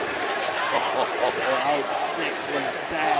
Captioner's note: crowd chants "holy --"